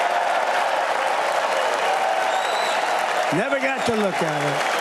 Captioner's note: applause